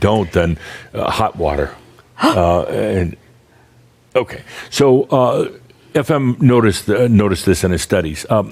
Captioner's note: gasps